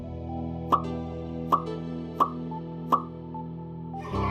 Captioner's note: popping sound of sad emoji